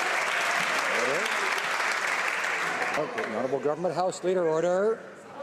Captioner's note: some Applause